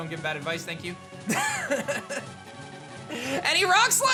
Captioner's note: chuckles